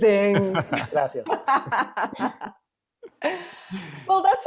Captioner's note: laughs